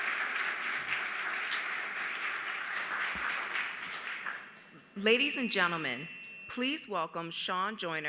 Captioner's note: applause